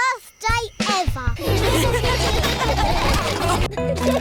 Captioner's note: all laughing